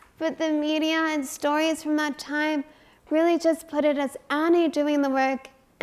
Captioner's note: none